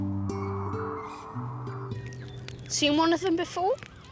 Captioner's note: calming guitar music; wind howling